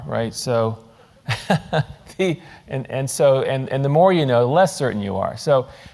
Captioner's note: laugh